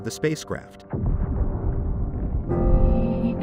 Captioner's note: loud booms